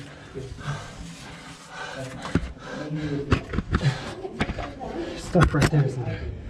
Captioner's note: heavy Breathing